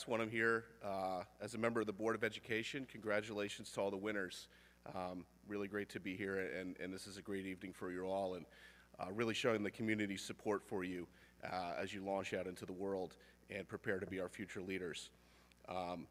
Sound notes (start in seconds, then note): none